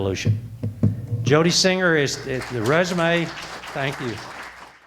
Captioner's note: audience applause